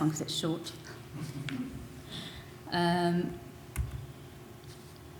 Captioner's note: audience laughing